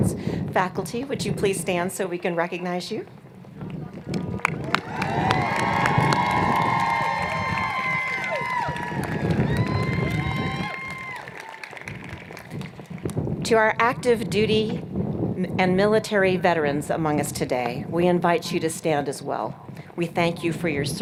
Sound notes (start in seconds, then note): 4.3 cheers and Applause